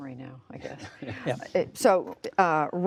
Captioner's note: laughter